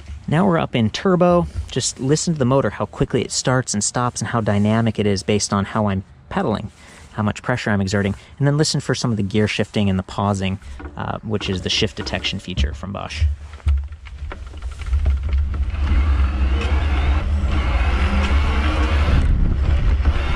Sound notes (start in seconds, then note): 15.8 whirring